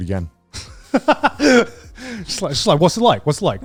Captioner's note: laughs